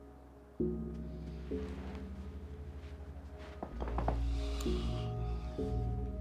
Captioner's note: Joe breathes uneasily